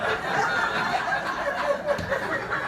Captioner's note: laughter